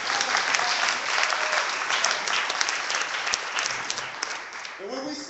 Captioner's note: clapping